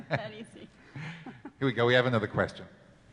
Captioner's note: laughing